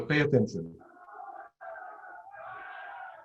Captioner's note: chanting and noise